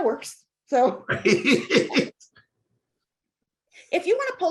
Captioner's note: chuckling